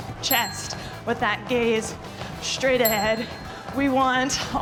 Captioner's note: bell dinging; bell dinging